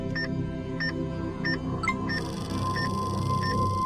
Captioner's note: EKG machine beeping; electronic chime